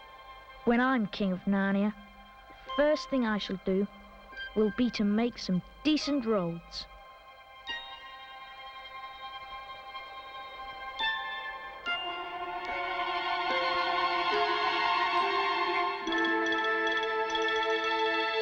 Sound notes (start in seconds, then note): none